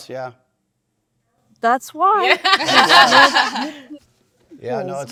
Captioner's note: panelists laughing